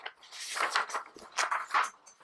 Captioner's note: paper rustling